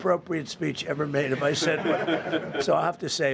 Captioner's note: laughter